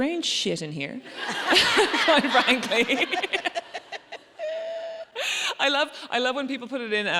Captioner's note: audience laughs